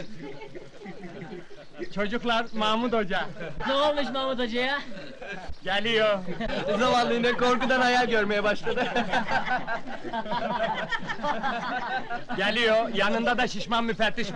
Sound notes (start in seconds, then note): 8.5 laughter going on